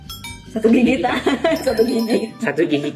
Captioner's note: laughs